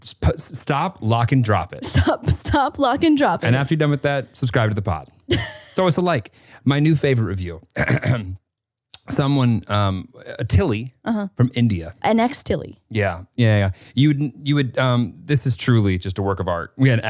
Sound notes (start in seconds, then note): 5.3 laughing; 7.7 clearing throat